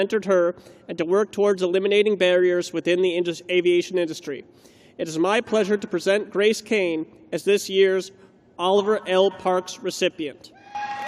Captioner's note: cheers and applause